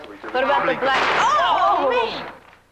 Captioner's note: bang